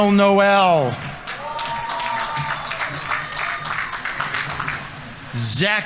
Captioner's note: audience members cheering; audience applauding